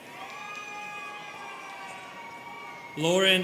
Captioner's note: students cheering